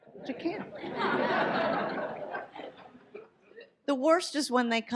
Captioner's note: audience laughs